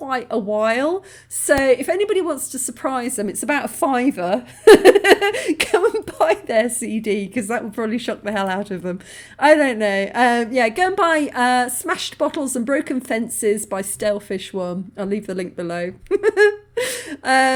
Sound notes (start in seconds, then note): 4.9 laughing